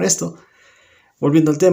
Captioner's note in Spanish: Silencio